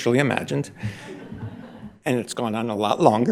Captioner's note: audience laughing